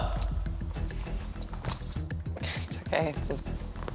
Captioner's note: handcuffs jangling; laughing